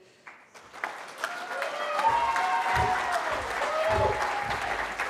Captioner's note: cheering